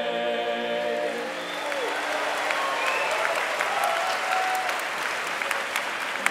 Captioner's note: audience clapping and cheering